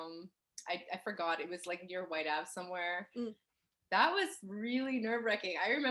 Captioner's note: none